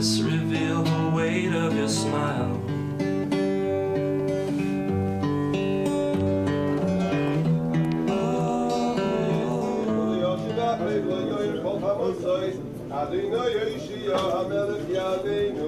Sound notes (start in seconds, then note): 10.3 man speaking in foreign language